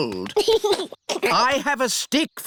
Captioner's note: giggles